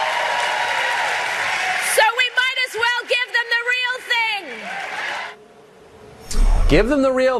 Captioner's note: cheers